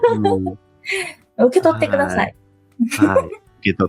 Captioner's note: laughs